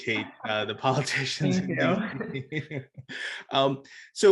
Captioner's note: both laugh